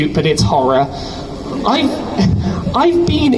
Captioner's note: crowd laughs